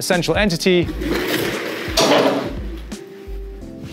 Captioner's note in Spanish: Silla rodando y chocando